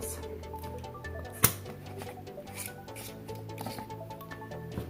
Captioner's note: pops lid open